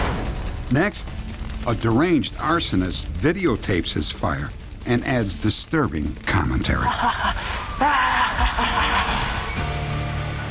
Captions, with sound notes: Next, a deranged arsonist videotapes his fire and adds disturbing commentary. [arsonist laughing]